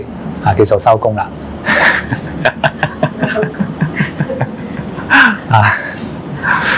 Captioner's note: laughing